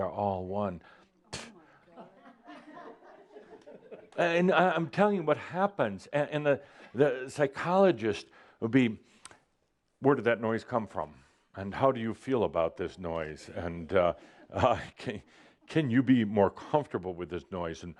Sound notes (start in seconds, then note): 3.4 a few chuckles